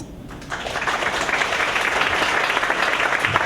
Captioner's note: applause